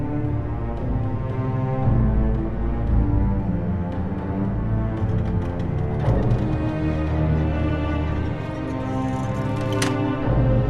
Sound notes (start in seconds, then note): 5.0 doorknob squeaks